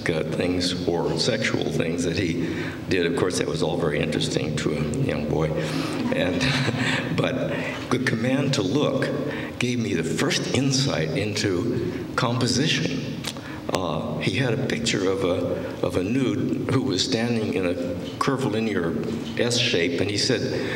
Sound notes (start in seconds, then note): 6.0 laughter